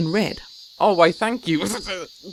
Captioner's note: stutters